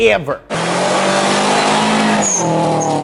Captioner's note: engine revving